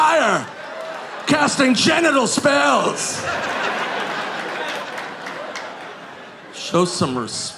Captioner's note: audience laughing